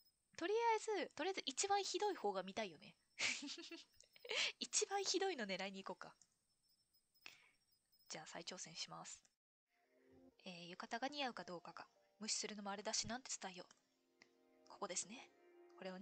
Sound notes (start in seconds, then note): 3.2 laughs